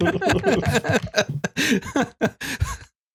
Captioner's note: laughter